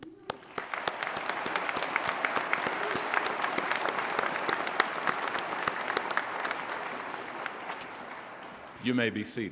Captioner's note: applause